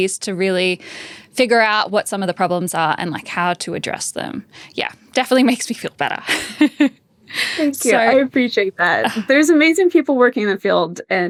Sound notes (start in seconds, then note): 7.4 laughs